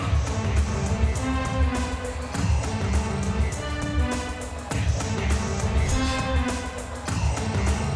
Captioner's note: upbeat music; graphics whooshing